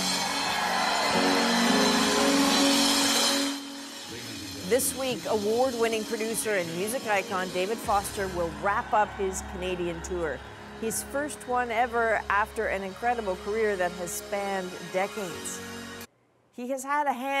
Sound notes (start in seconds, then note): 6.3 applause